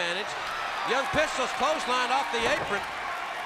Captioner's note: crowd cheering